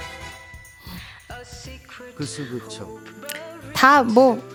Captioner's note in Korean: 콧방귀